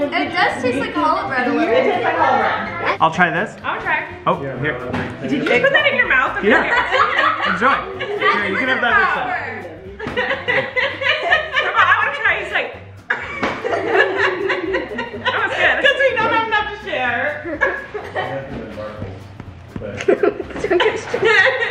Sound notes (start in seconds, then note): 6.4 laughing; 13.6 mom laughing